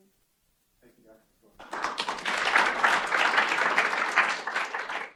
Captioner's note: applause